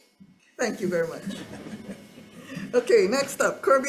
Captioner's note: all laughs